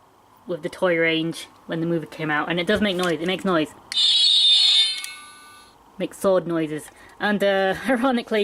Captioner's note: metallic sounds